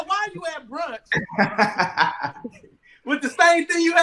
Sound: all laughing

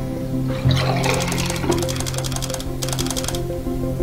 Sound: camera click

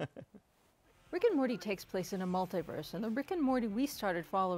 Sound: laughter

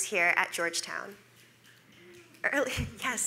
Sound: audience snapping

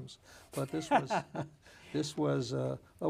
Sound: laughing

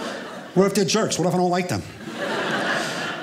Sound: audience laughing

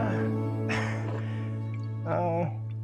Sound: chuckles

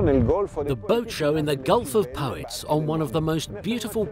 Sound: voiceover

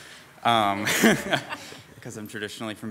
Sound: people chuckle

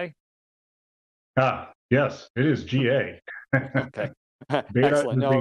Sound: laughs

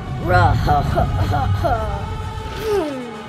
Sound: triceratops laughing; dramatic music

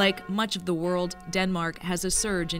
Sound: bells tolling

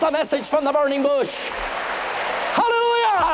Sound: applause

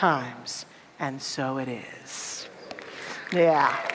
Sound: audience applause

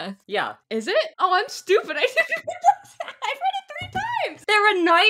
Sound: laughing

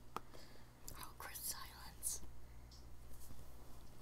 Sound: whispering

